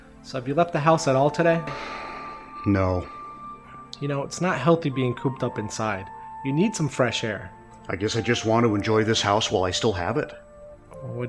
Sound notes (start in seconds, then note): 1.6 sighs